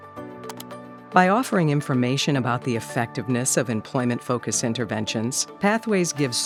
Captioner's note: mouse click; voiceover